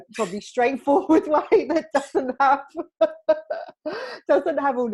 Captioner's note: both laughing